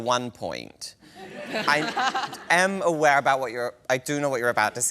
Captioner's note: laughter